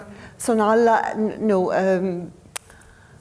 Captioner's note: speaking foreign language